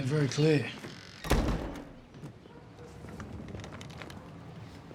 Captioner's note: door shutting